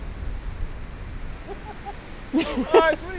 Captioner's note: laughing